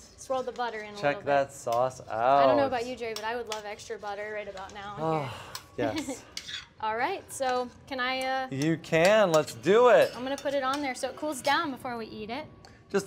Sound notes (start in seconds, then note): 5.0 sighs